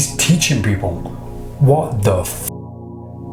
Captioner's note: swearing